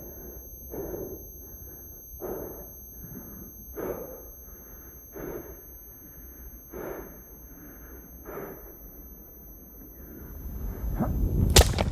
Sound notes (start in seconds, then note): 2.5 breathing hard; 8.1 buzz continues